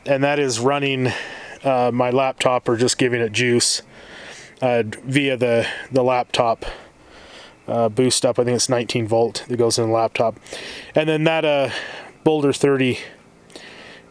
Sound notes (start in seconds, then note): none